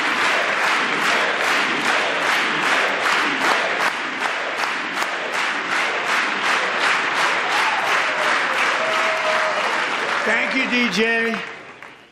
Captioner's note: applause; applause